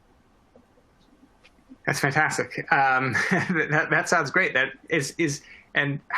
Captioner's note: laughter